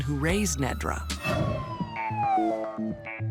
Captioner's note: police siren blaring